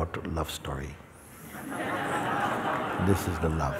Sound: laughter

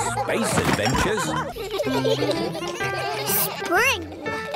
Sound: giggling

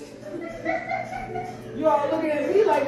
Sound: laughing

